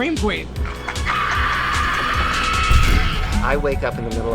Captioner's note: shrieking scream